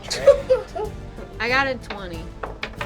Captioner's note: dice bouncing; laughing; dramatic music